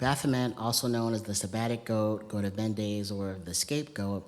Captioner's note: non-english